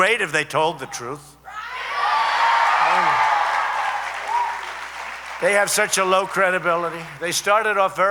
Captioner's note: applause